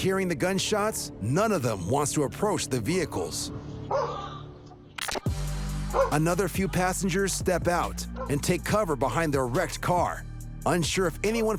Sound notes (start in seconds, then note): 3.9 dog barking